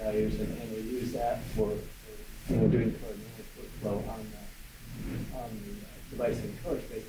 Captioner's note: microphone distortion